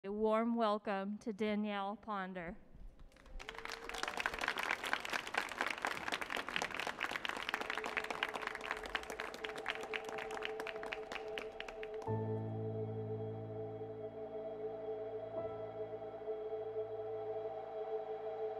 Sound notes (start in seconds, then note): 3.7 audience applauds; 12.4 ethereal music